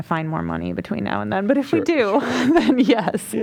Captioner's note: laughter